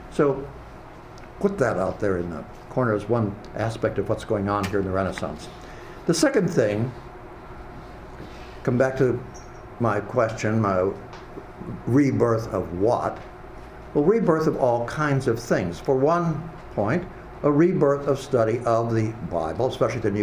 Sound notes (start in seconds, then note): none